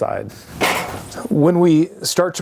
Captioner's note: foot bangs on step